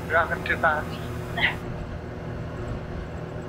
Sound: chuckles

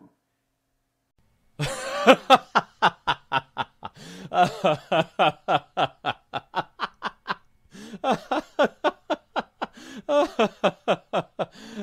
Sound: laughing sound effect

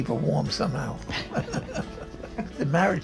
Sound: laughing

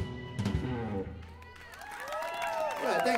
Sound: applause

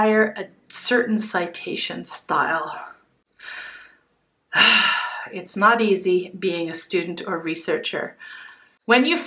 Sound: sigh

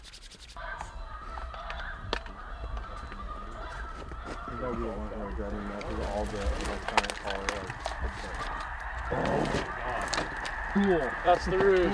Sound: distant goose squawking

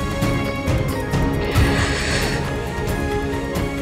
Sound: Poonam gasps

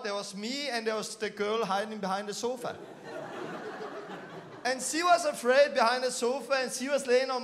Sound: laughing

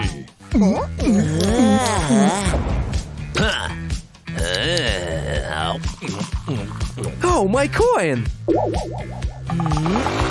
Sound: making a sip; making sips

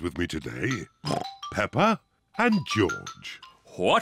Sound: oinks

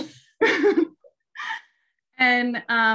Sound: giggling

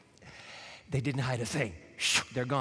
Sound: exhales sharply

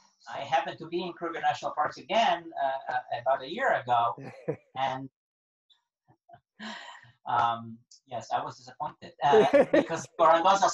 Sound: laughing

